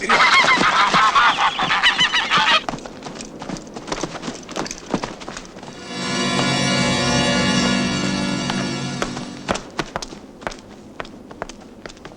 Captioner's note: footsteps are heard